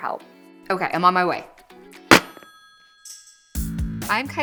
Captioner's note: telephone receiver rattles